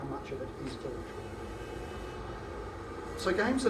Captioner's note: car honks